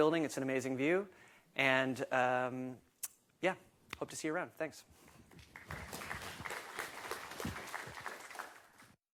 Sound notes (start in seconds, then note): 5.2 applause